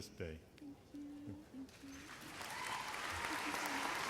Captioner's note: applause